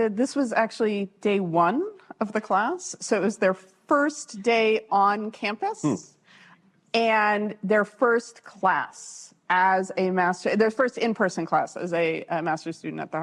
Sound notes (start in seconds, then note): none